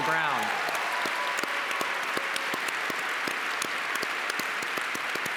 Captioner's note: audience cheers and applauds